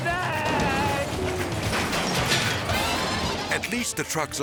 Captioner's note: metal shattering; light upbeat jazz music